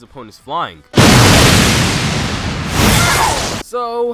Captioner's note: loud explosion